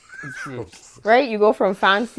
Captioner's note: laughter